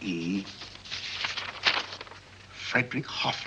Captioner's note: paper rustles